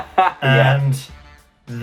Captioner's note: laughs